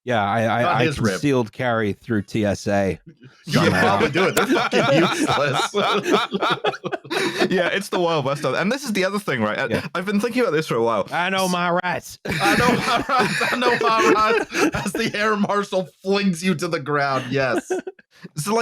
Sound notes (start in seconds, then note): 3.5 laughter; 3.6 laughing; 6.0 laughter; 11.5 drawls; 12.2 laughter; 13.0 drawls